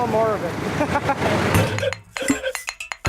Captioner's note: laughing; upbeat electronic music